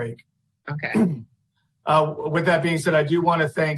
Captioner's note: clears throat